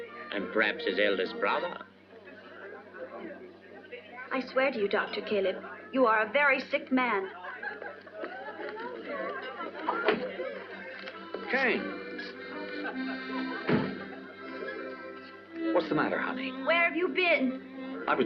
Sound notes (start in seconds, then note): 9.9 door opens; 13.6 door closes